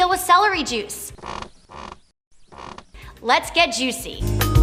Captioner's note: celery stalk creaks